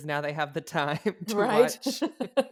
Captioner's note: laughs